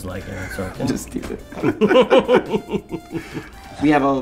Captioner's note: laughter